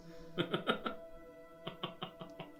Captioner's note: laughing